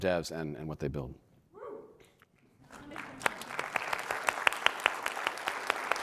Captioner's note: audience applauding